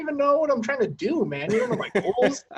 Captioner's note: laughs